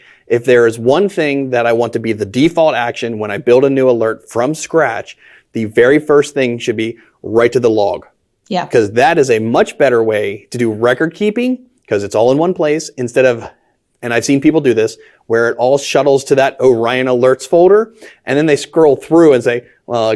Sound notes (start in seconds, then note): none